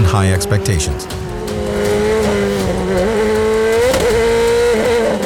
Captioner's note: car engine revving